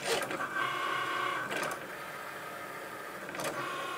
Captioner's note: whirring